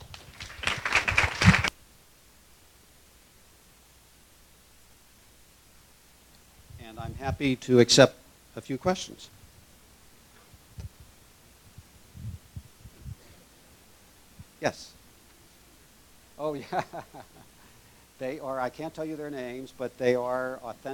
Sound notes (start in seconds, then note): 0.0 applause; 16.5 laugh